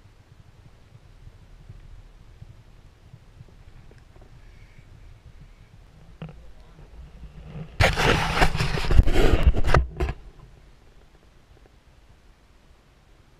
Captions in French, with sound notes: Il y en ai trois. [GRINCEMENT DE PENTURE DE GoPro]